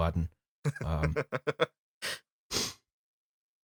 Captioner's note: laughter